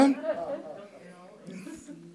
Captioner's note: audience chuckles